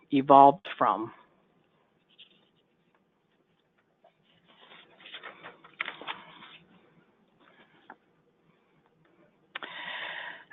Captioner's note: silence